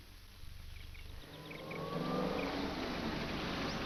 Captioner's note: bird chirps